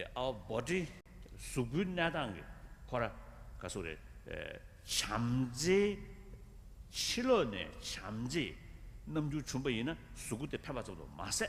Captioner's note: foreign words